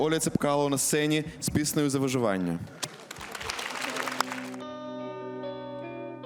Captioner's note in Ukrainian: оплески